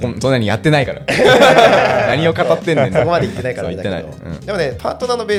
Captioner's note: laughs